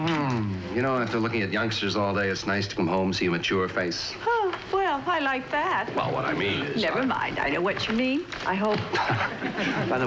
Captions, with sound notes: You know, after looking at youngsters all day, it's nice to come home and see a mature face. Oh, well, I like that. Well, what I mean is... Never mind I know what you mean. I hope. (CHUCKLING)